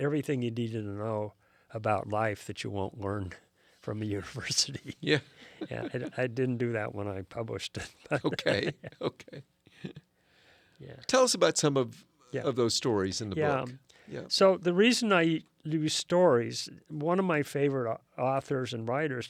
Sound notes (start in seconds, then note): 8.2 laughs